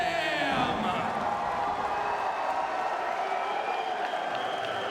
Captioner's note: crowd cheering